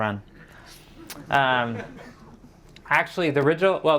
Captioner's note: audience laughing